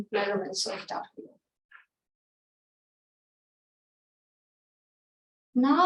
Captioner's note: silence